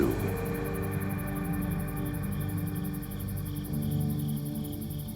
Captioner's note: crickets chirping